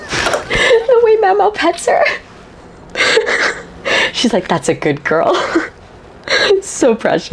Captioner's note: laughs